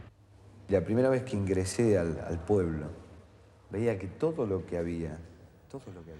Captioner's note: man speaking in foreign language